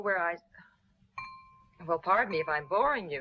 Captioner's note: knife clanging